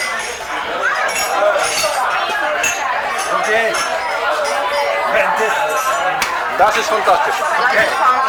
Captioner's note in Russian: шум тарелок, гул разговоров